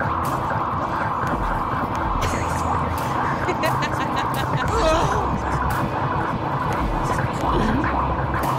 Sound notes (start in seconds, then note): 3.2 laughter; 4.7 moaning